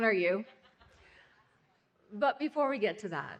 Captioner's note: laughing